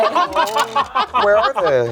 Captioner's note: group laughs